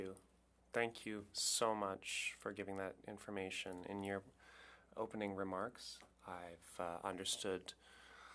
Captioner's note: speaking French